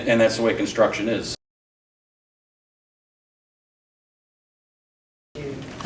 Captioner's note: silence